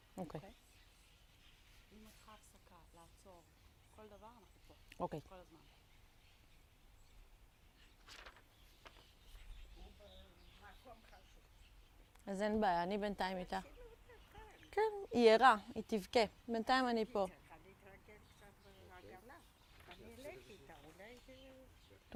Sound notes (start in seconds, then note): 6.6 hebrew; 12.0 hebrew